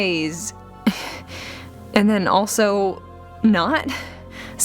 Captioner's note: breath of Frustration